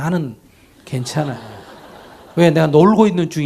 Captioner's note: audience laughter